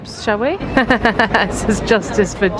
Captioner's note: laughing